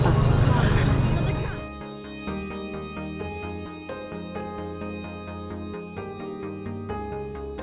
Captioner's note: exclamation